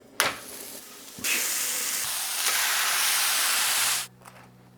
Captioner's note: sizzling sound